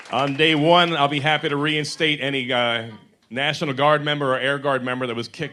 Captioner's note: applause